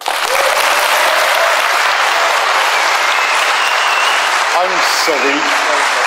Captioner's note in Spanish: aplausos